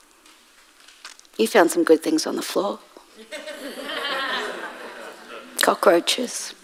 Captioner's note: audience laughs